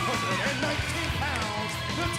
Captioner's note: crowd cheering